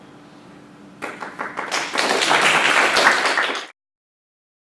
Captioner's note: applause